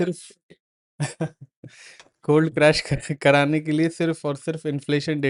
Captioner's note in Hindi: हंसी